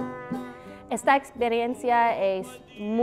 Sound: speaking Spanish

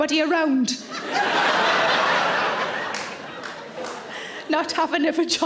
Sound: audience laughs

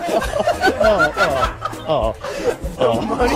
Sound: maniacal cackling

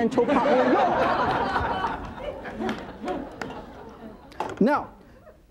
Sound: audience laughing

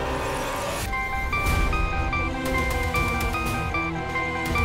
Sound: cell phone ringing

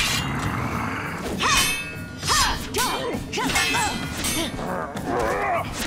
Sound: grunting, swords clanking

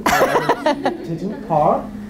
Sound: laughs

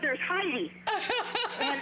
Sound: laughter

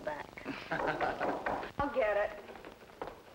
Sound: man laughing; knocking on door

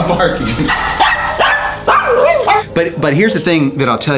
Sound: Pugsly barks

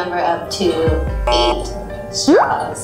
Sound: buzzes

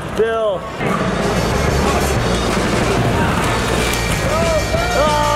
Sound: cars clattering; people clamoring

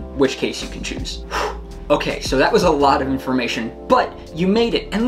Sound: sighs

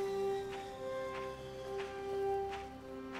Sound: seashore sounds

